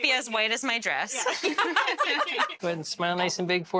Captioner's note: laughs